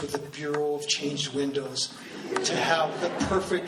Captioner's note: laughing